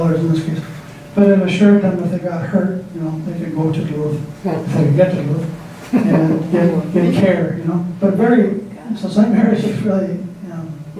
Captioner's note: laughter